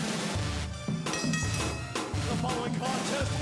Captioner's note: bell ringing